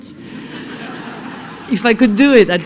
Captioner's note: laughs